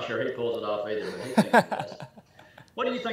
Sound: laughing

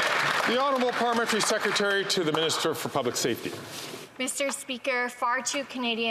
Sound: some Applause

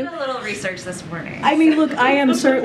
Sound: laughter

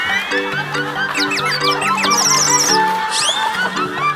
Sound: giggle giggle giggle

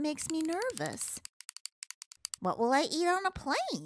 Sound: teeth chattering

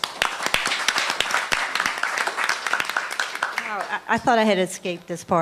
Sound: applause

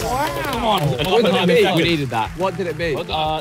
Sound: everybody clapping and cheering

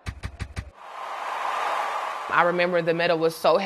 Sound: cheers

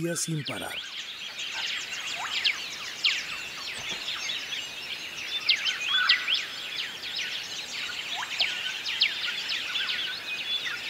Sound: birds chirping

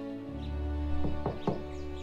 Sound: knocking on door

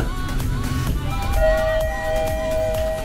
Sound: elevator chimes

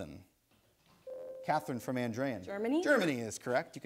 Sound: ding

